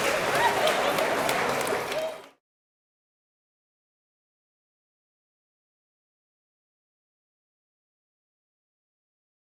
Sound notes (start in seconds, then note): 1.8 applause; 1.8 laughter